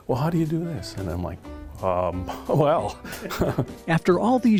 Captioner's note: chuckles